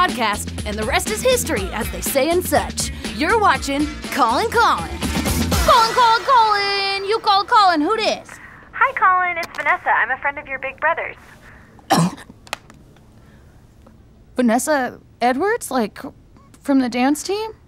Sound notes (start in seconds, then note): 11.8 coughs